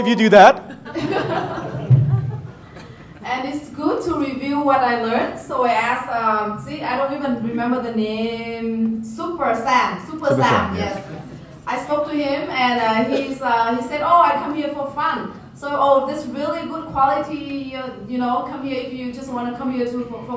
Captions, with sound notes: - How many of you do that? (laughing) - And it's good to review what I've learned so I ask, see I don't even remember the name Super Sam, Super Sam yes. I spoke to him and he said, "Oh I come here for fun." Oh this really good quality, just want to come here for fun?